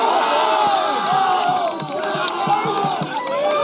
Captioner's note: applause